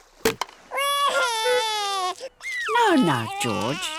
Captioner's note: wailing